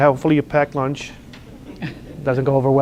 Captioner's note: laughter